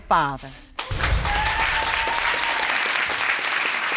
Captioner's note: cheering and applause